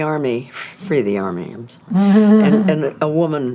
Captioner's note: chuckles